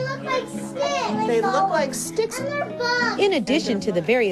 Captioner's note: children playing